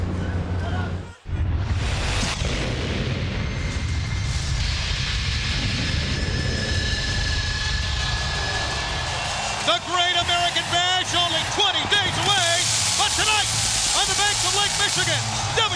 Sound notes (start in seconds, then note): 1.7 scene whooshing; 8.6 crowd cheering